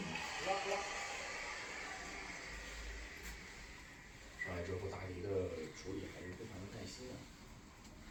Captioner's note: TV background sound